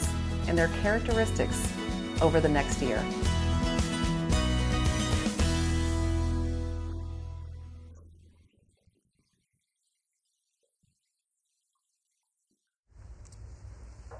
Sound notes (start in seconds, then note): 5.3 footsteps leaving